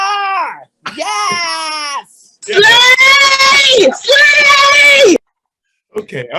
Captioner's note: cheering